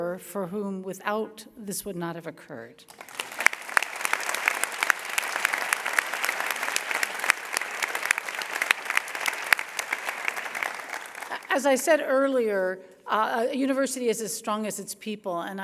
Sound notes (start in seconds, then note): 2.8 applause